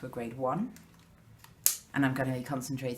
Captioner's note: click